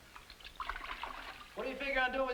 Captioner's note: water splashing